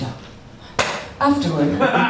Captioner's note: folder thuds